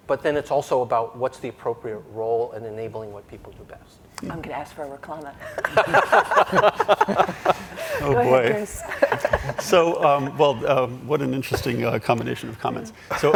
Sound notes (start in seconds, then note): 5.5 panelists laugh